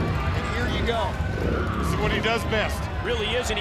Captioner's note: motorcycles revving